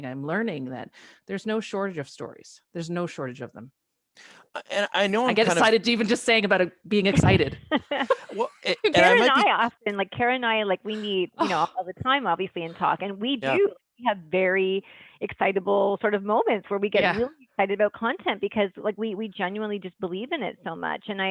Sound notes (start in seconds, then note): 7.5 laughter